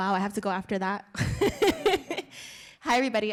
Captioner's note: laughs